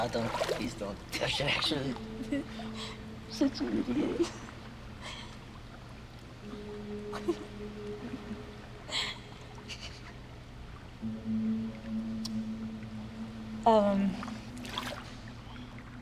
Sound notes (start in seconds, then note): 7.1 Nadia laughs; 11.9 soft music